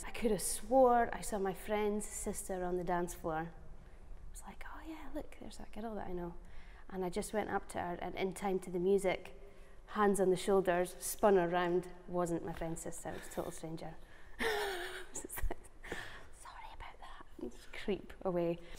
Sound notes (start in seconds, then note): 13.9 laughing